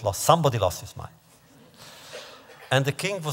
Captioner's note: laughter